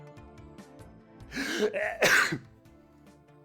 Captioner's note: sneezes